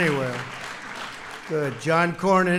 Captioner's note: applause